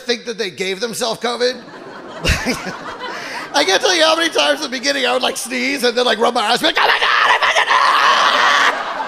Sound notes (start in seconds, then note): 2.0 audience laughing